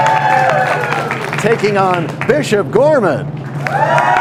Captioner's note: cheers and applause